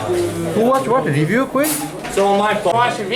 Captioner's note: voiceover